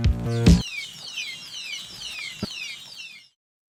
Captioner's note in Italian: pigolio incessante